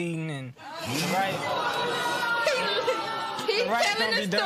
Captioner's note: laughter